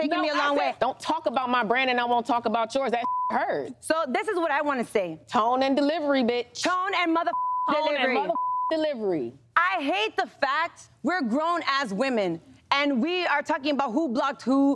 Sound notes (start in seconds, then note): 3.0 beep; 7.2 beep